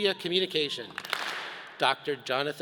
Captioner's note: all clap